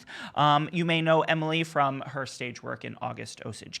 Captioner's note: none